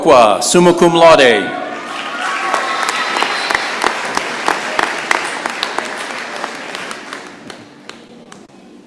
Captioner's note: applause